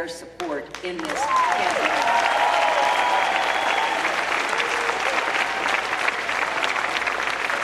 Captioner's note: cheering